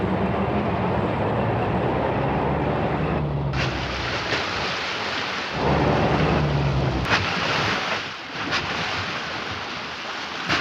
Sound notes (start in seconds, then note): 2.7 water splashing